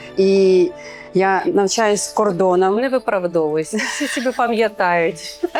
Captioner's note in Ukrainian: сміх